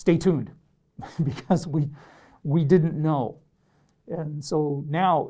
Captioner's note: laughs